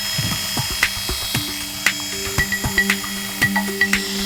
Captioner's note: shaver whirring; bright music